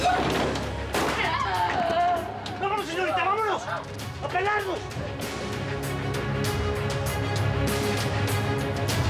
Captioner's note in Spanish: portazo; gritos de sara